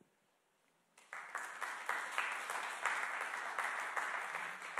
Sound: audience clapping

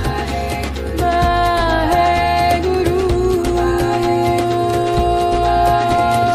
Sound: chanting in foreign language

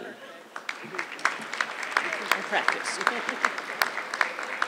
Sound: audience clapping

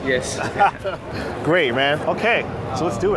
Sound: laughs

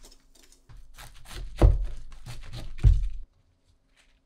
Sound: crunch crunch

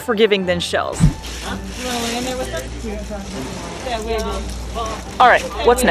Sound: background music; background chatter; sound of ice cubes shifting under otter wiggling

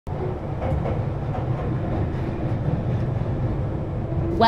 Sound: underground train engine noise

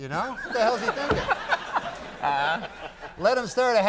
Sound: Conan and audience laughing

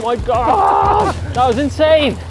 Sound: laughing

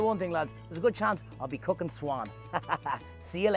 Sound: laughs

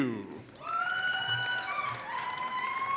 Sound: applause

